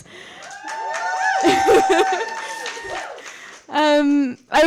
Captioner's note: applause